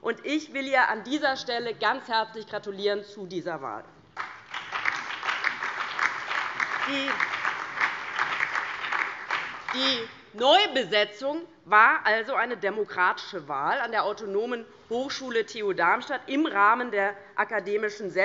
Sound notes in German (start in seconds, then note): 4.1 Beifall DIE LINKE, BÜNDNIS 90/DIE GRÜNEN und SPD